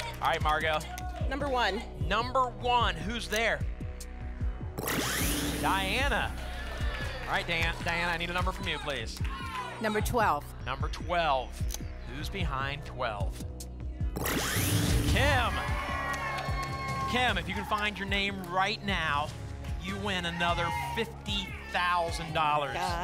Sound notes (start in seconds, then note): 15.1 cheering